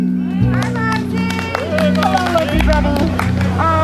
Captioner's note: chimes; people cheer